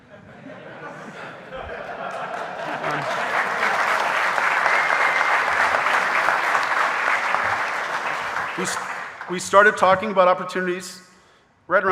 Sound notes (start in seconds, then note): 0.2 audience laughing; 1.6 audience applauding